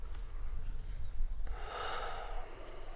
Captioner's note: sighs